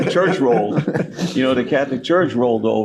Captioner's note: laughing